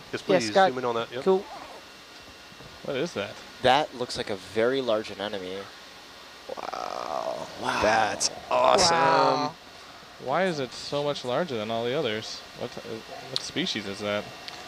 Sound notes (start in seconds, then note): 7.5 everyone gasping